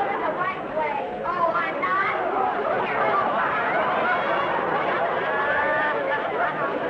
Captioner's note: audience laughing